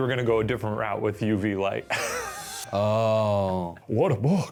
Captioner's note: laughs